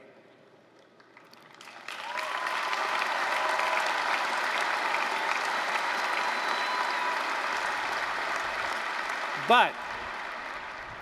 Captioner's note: applause